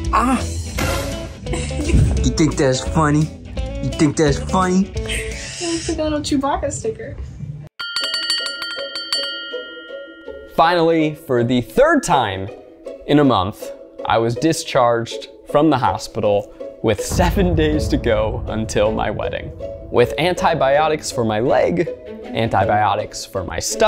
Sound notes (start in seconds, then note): 1.5 laughs; 7.8 bell rings